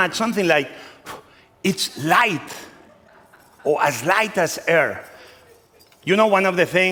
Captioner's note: blows